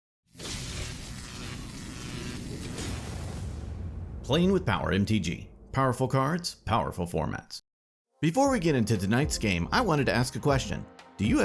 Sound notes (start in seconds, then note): 0.4 electricity buzzing; 8.2 upbeat music